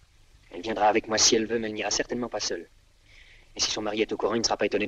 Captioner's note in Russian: none